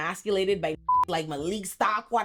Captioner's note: beep